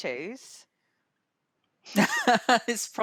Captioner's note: laughter